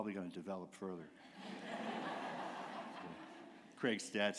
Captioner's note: laughter